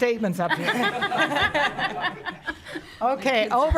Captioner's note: audience laughs